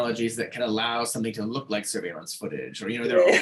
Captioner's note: laughing